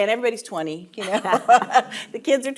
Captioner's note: laughing